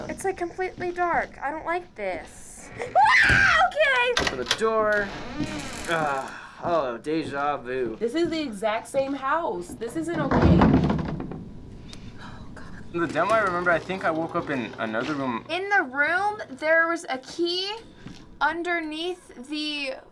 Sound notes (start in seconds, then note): 2.9 yelps loudly; 3.1 door creaks; 10.8 loud rattle